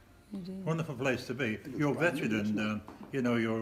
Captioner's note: chatter